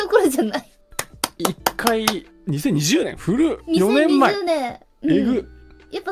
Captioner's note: clapping